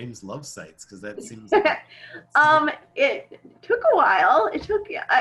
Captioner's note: laughing